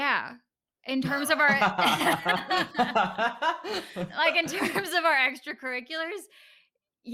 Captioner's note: laughter